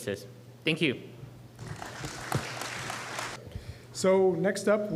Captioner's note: applause